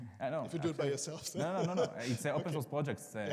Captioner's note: participant laughs